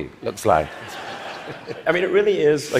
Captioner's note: laughter